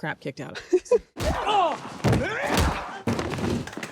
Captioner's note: grunting